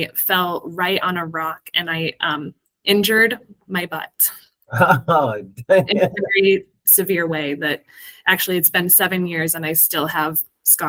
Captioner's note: laughs